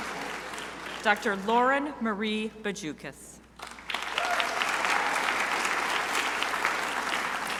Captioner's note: crowd applauding